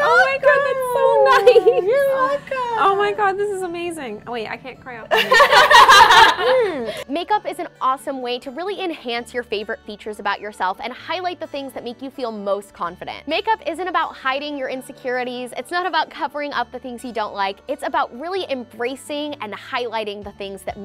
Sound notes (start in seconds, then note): 5.1 girls laugh